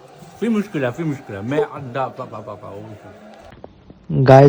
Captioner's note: Arabic